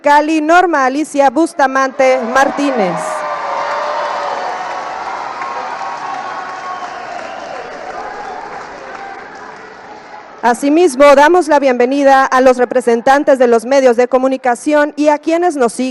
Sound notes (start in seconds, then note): 0.1 applause